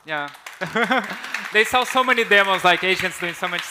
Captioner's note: chuckles